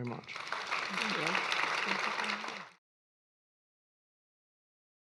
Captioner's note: audience clapping